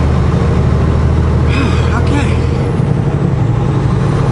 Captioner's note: sigh